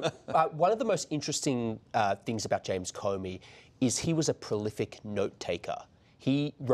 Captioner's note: laughter